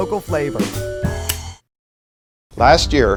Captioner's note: lighter clicking